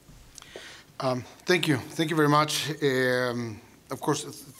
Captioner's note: with Mexican accent